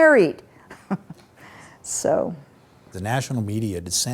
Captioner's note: chuckles